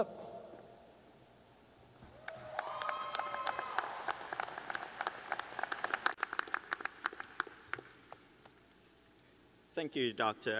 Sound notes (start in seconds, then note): 2.1 cheers and applause